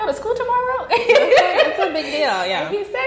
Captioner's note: laughing